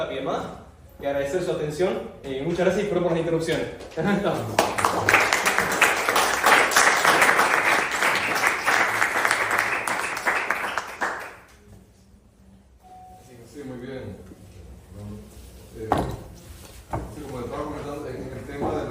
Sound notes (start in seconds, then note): 4.4 applause